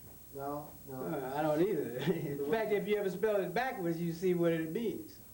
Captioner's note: laughs